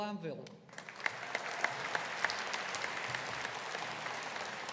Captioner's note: audience applauding